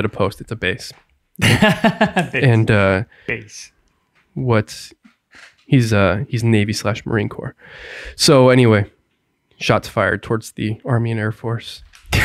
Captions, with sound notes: Excuse me, I called it a post, it's a base. - (laughs) Base. - He's navy/marine corps. So anyway, shots fired towards the Army and Air Force.